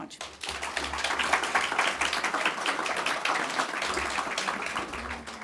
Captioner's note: audience clapping